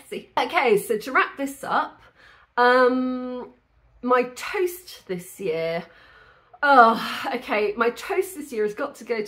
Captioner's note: sigh